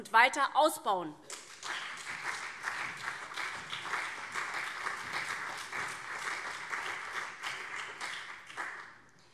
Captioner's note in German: Beifall CDU und SPD